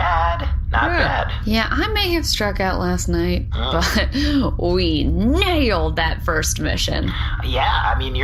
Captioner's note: laughs proudly